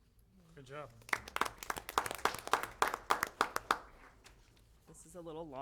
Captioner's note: applause